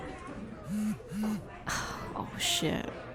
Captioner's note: phone buzzes